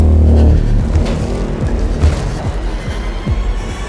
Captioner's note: approaching footsteps; Naomi breathes heavily; tense strings rise